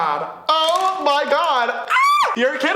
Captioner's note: screams